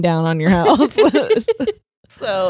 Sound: both laughing

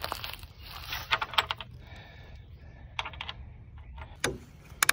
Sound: rustling; clinking of nails; grip clicking

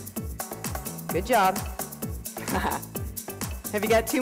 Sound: laughs

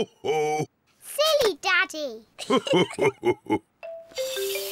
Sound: both laugh

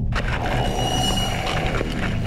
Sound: zombies groan

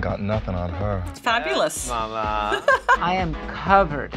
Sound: laughing

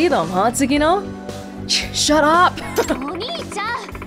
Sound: chuckles

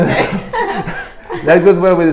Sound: laughs

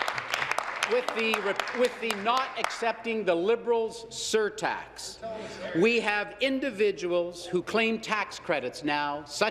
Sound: applause

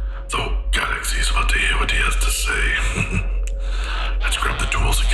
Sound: laughs to himself

